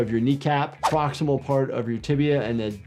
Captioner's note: graphics swishing